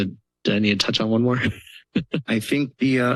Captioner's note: laughter